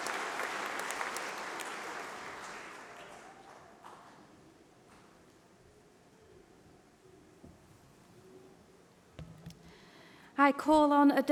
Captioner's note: applause